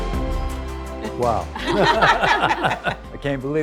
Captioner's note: bright music; group laughs